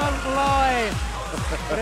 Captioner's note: laughter